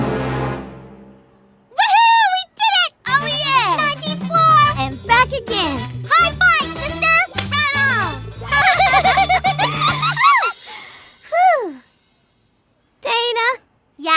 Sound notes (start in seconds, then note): 8.3 laugh